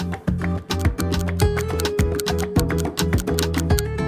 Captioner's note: clock ticking